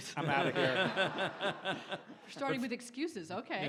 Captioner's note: audience laughs